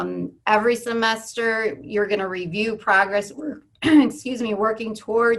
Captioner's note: cough